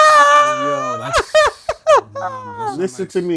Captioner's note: laughter